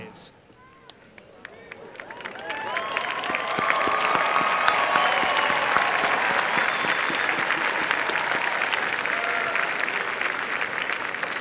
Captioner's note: applause